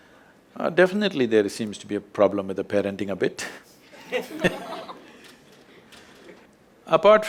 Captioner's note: laughter